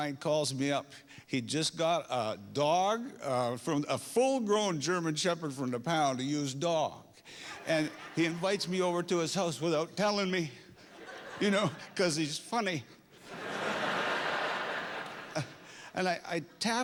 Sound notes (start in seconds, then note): 4.4 laughter